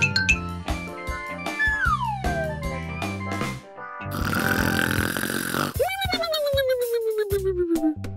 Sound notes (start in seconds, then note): 1.5 slide whistle descending; 4.1 snoring